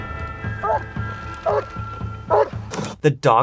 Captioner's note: dog barking